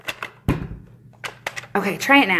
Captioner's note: thumping